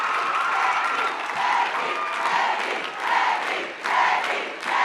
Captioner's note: Crowd chanting “Becky”